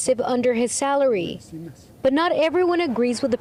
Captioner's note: speaking spanish